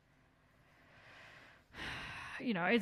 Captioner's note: sighs